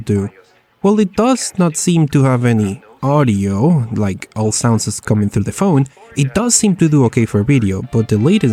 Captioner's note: all sounds are coming through the phone